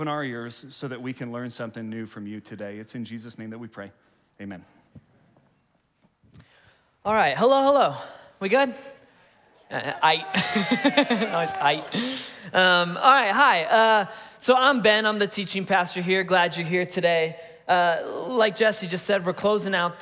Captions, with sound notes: - All right, hello, hello. We good? (congregation cheering) Aight. (laughing) Nice, aight. All right, hi, so I'm Ben, I'm the teaching pastor here, glad you're here today. Like Jesse just said, we're closing out